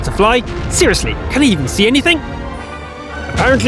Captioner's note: boom